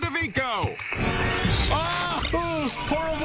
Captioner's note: the woman screeches